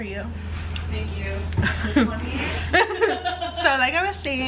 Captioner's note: laughter